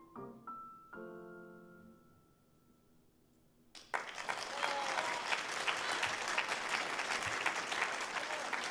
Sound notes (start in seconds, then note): 3.7 audience applauding